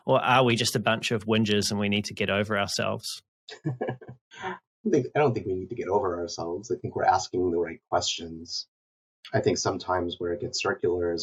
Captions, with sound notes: Or are we just a bunch of wingers and we need to get over ourselves? (laughing) - I don't think we need to get over ourselves. I think we're asking the right questions. I think sometimes where it gets circular